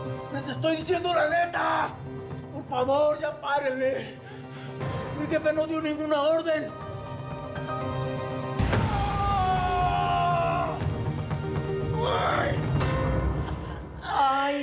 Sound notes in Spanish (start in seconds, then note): 8.6 golpetazo; 11.3 alarido